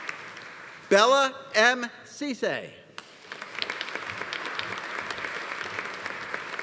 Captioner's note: audience applauding